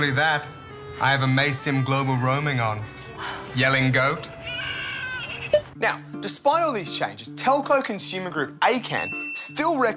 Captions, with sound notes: Not only that, I have Amaysim global roaming on. (Gasps) Yelling goat. (Bleating) Now, despite all these changes, telco consumer group ACAM